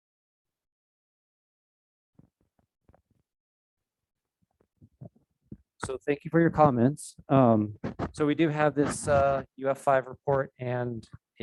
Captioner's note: microphone Interference